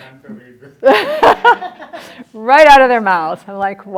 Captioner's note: laughs